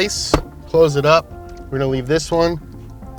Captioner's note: lid thunks